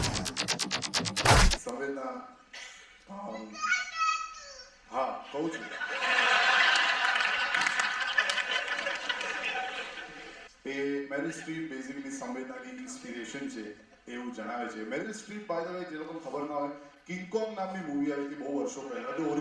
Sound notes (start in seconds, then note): 3.5 Baby Shouts